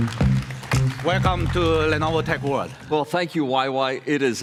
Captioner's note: applause